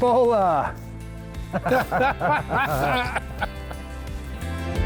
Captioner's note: all laughing; upbeat music continues